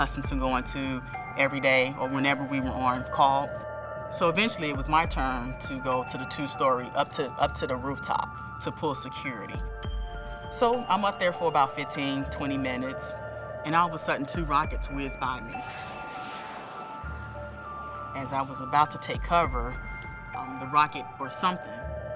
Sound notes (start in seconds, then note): 15.6 rockets whiz